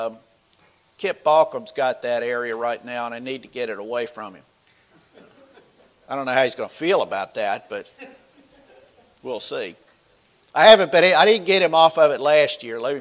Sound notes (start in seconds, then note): 5.5 laughter from the audience